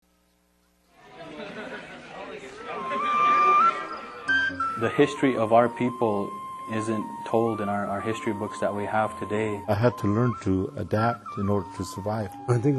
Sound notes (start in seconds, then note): 1.0 students chattering; 3.2 enchanting flute music